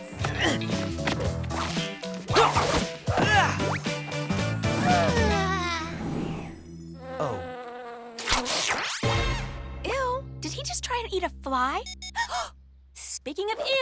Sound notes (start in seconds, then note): 9.2 beeping